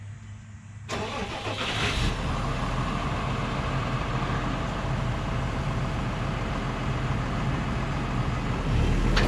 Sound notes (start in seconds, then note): 2.2 motor rumbling